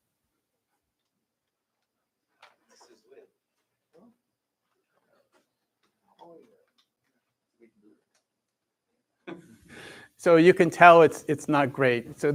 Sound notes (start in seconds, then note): 4.8 chatter